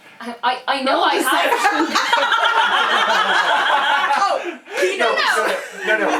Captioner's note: laughter